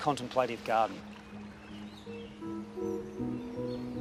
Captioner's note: birdsong